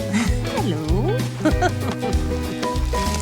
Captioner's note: laughs